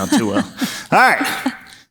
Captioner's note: laughs